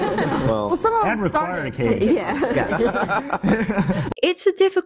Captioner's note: uncomfortable laughing from panel